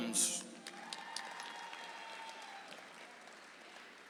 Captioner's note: audience applauds